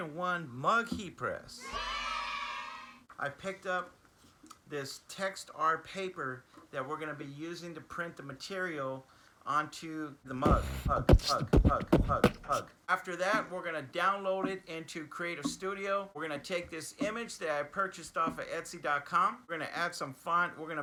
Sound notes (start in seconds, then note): 10.4 beatbox